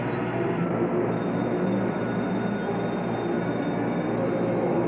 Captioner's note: phone ringing